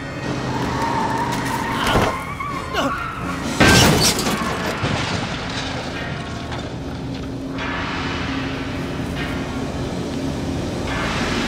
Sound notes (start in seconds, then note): 0.0 tires screech; 2.7 Dwight groans; 3.4 shattering; 7.9 dark instrumental music